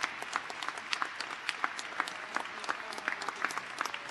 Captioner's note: cheers and applause